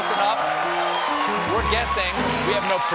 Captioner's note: cheers and applause